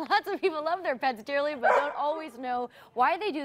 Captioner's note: dog barking